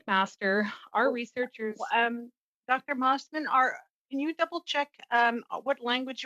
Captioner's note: speaking French